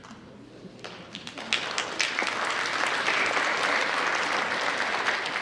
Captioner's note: audience applauds